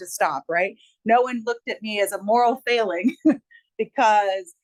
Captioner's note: chuckles